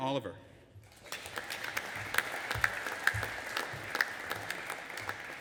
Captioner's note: audience applauding